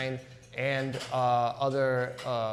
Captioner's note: none